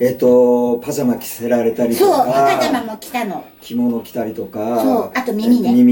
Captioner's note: laughs